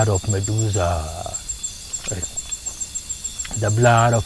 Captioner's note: water splashing